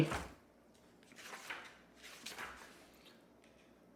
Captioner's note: pages turn